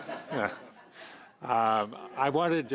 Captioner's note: chuckling